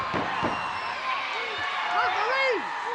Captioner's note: crowd yelling